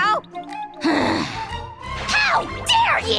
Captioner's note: sigh